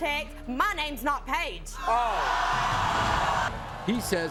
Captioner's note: audience gasping